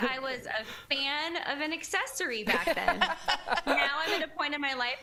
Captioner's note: laughter